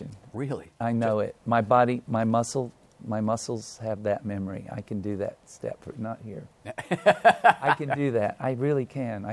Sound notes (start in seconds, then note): 6.6 laughs